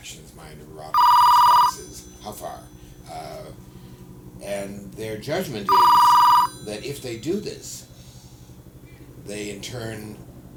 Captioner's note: phone ringing